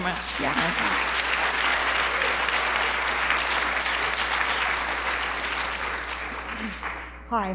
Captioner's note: applause